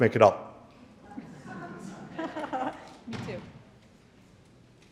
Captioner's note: audience laughing